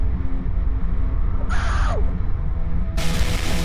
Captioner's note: screams